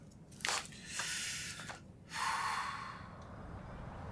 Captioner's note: sighs